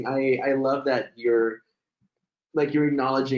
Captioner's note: laughs